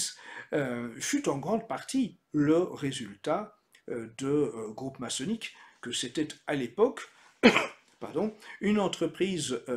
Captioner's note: cough